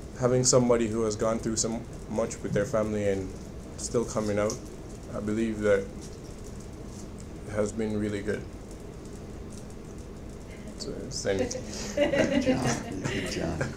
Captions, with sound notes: Having somebody who has gone through so much with their family and still coming out, I believe that has been really good. (audience laughs) - Good job, good job.